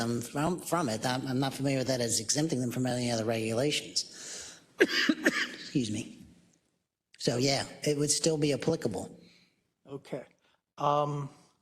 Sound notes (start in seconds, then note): 4.8 cough